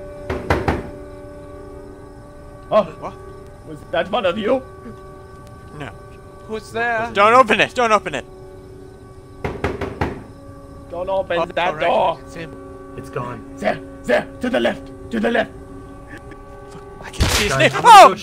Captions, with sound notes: [Loud knocking] Wha? Was that one of you? No. ...Who's there? Don't open it! Don't open it. [Loud knocking] Don't open that door! - Oh right, right, it's him! It's gone. - 'Zhere, 'Zhere! To the left, to the left! Fuck, I can see his na- [BANG!] Fuck, I can see his na- WOH!